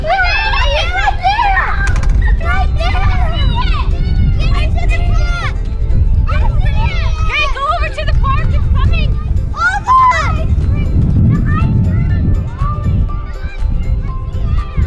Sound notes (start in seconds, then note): 0.1 yelling; 11.5 yelling